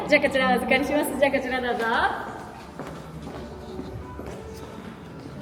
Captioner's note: cast Member speaking in Japanese